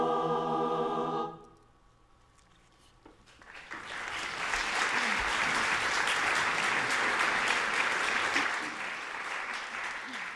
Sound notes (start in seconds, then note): 3.3 audience applauding